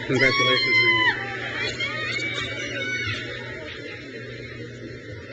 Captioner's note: crowd cheers